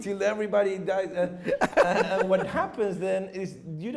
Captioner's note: chuckles